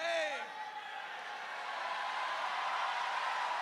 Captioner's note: crowd cheers